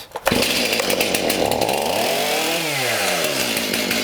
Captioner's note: chainsaw grinding